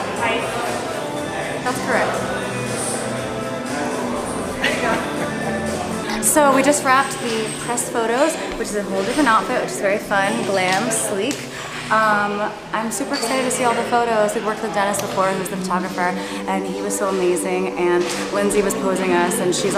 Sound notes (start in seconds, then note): 4.5 chuckling